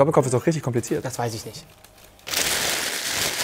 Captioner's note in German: Papierrascheln